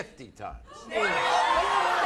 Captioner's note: audience gasps